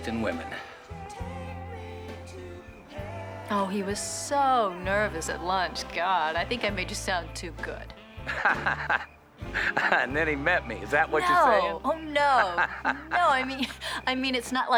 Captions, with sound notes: With great taste in women. - Oh, he was so nervous at lunch. God, I think I made you sound too good. (Nash laughing) - And then he met me, is that what you're saying? - No! Oh, no! No, I mean...